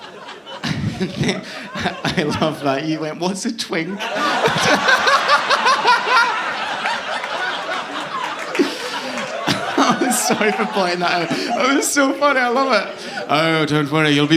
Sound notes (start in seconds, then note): 3.9 laughing; 6.7 audience laughing